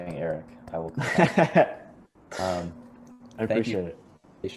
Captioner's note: laughing drowns out speaker